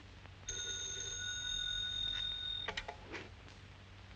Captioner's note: phone rings